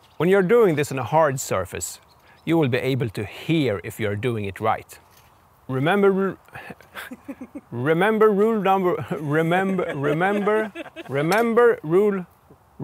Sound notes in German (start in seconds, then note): 6.6 heh; 11.7 lacht